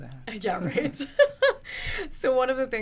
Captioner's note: laughing